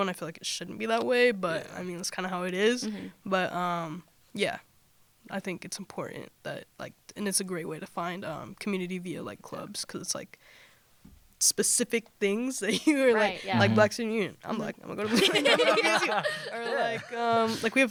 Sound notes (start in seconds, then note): 15.0 laughter